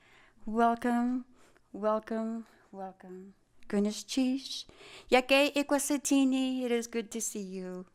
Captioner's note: speaking tlingit